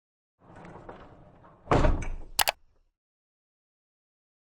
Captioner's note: logo rattles and clicks